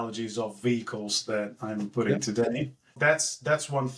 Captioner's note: laugh